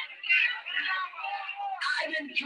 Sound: crowd jeering

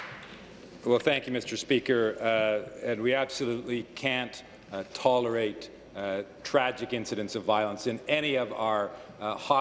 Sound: applause

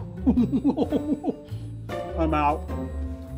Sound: laughing

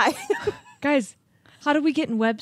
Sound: chuckles

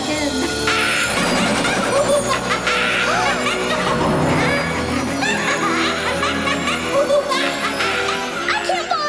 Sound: laughing

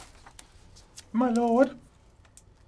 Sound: in high pitch

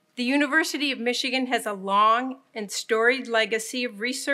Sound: none

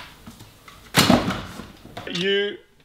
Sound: thuds

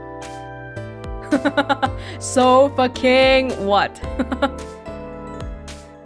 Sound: chuckles

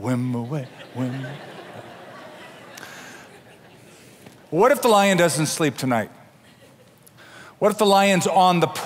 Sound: laughter

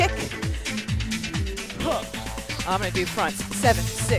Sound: grunts

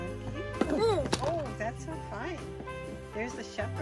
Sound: child grunts

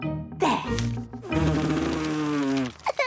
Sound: blows

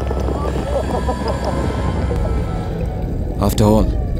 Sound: laughing

